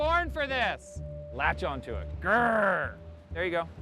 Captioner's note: playful growl